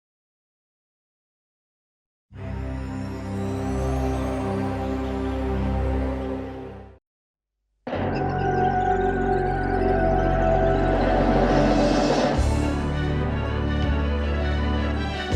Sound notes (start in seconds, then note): 2.4 mystical music; 2.6 birds chirping; 7.9 adventurous music